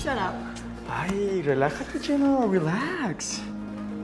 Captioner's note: speaking spanish